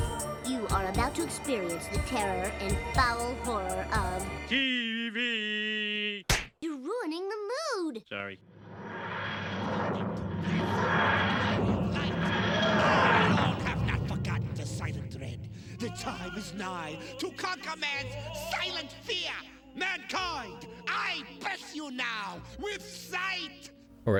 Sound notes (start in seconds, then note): 6.2 smack; 8.4 tardis noises